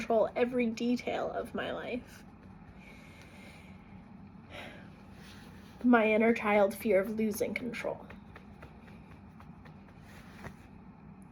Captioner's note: breathing